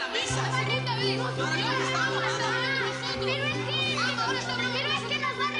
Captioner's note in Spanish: Algarabía de niños